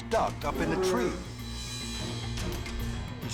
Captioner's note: bear whimpers